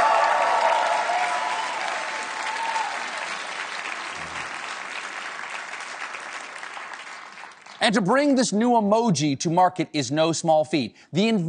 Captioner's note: cheers and applause